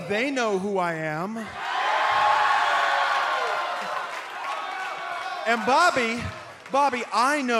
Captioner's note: cheers and applause